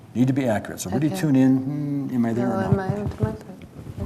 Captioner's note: hums